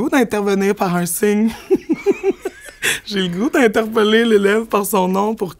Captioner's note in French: éclat de rire